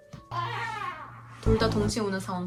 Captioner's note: wailing